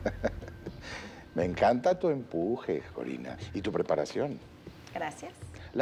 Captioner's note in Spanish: Risas